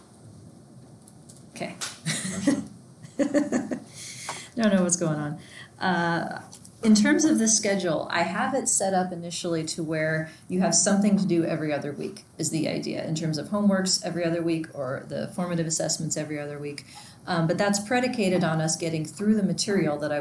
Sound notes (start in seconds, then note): 2.1 laughs